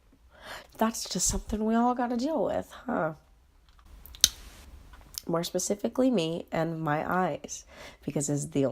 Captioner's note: tongue smack